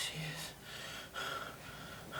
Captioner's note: gasps